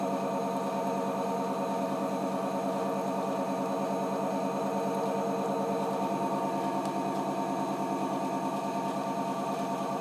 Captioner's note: fast motor turning and water bubbles popping